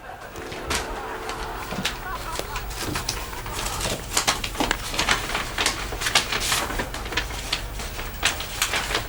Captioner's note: comedy tv show plays loudly